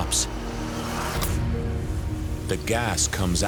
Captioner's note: fizzing